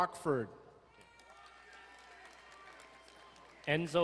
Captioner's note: crowd cheering and applauding